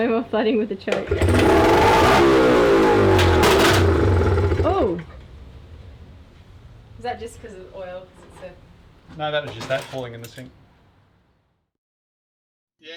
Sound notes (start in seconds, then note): 0.0 laughing; 0.8 engine starting